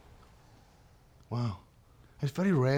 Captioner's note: scottish accent